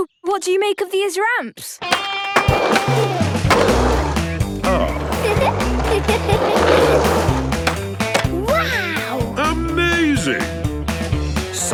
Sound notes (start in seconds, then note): 2.3 rock music; 4.6 giggles